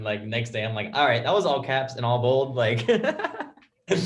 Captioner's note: laughs